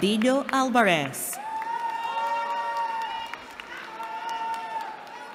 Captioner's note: cheering